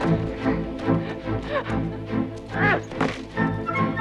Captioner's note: Hundra chuckles; guard grunts